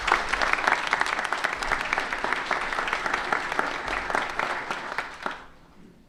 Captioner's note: applause